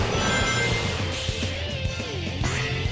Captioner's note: intense upbeat rock music; emblems chiming; jets whirring